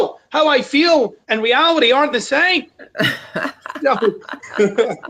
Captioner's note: laughs